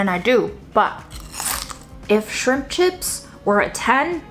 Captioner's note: chip crunching